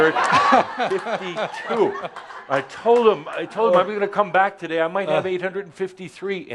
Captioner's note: lots of laughter